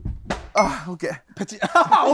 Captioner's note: smack